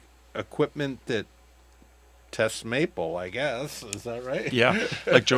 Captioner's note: laughs